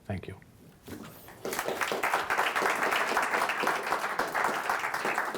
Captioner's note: audience clapping